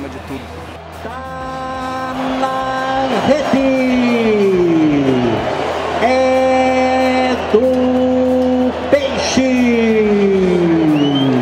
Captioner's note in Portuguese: torcida celebrando